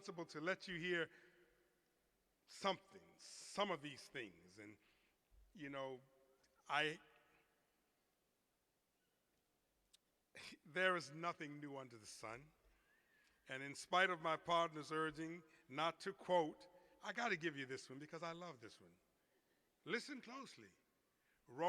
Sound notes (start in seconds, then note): none